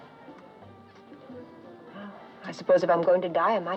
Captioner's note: sighs